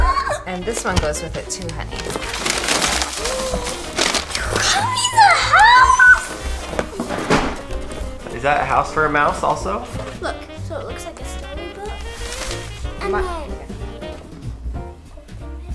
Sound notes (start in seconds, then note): 3.0 gasps